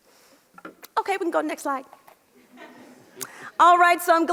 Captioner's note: audience laughs